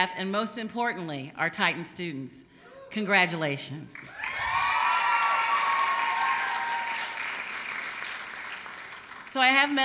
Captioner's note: applause